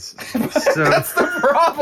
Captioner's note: laughing